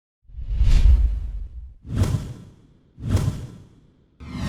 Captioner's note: whooshing